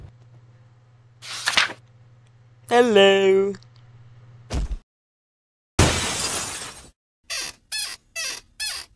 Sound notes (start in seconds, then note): 1.2 page Flip sound effect; 5.8 glass Shattering sound effect; 7.3 squeaky Hinge sound effect